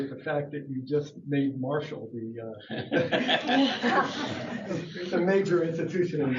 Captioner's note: laughter